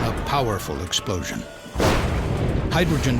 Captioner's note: sound of explosion